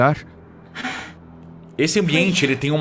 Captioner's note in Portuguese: suspira